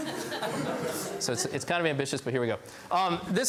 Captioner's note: laughs